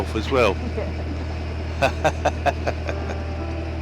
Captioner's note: laughing; gentle music